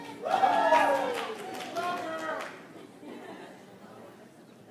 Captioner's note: audience applauds